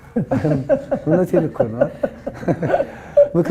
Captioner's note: more giggling